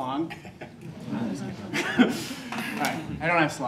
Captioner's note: audence members laugh